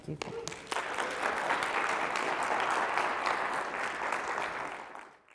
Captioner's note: audience applauding